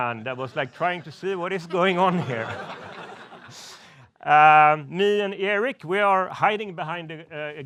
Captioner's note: laughs